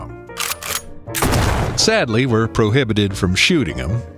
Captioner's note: SFX: Shotgun pump and fire